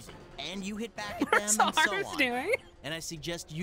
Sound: laughing

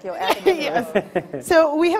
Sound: laughs

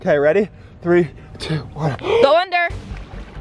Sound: gasps

